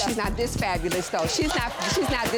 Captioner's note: audience laughing